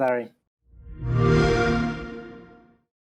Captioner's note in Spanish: xbox sonido